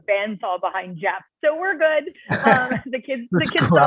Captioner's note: laughter